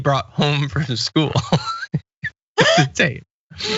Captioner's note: laugh